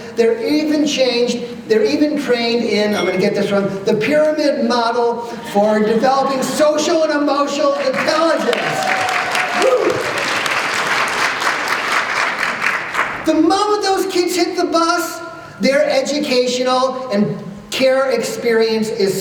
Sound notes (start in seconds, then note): 7.8 applause